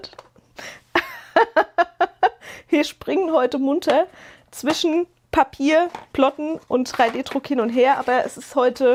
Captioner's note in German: gelächter